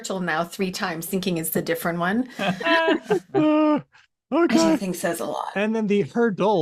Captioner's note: laughs